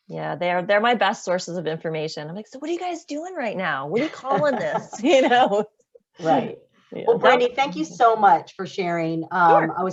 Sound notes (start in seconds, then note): 4.0 laughs